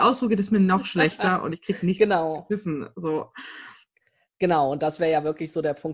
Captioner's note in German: lacht